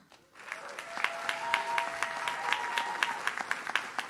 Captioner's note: audience claps